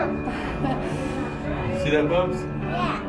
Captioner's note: laughing